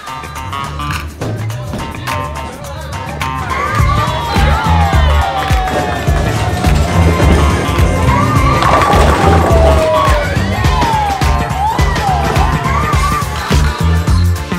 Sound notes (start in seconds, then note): 4.6 cheering; 8.7 bowling pins knocking; 11.7 cheering